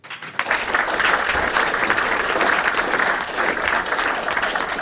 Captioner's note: attendees clapping